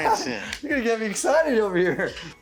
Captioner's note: laughs